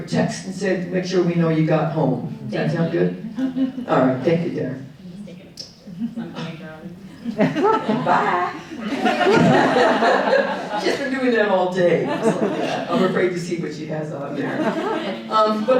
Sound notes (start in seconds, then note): 9.2 audience laughing